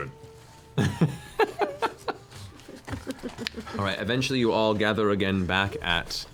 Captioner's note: laughs